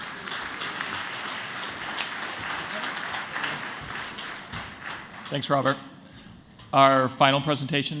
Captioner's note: applause